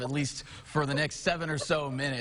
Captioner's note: laughing